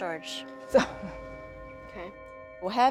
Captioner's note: laughs